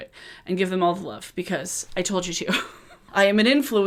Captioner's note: chuckles